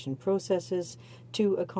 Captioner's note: speaking French